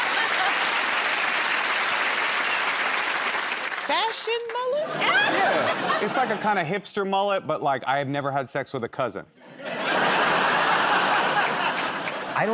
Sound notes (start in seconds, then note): 0.0 cheers and applause; 9.4 laughter